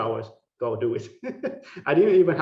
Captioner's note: laughing